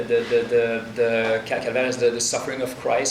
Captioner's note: speaking in foreign language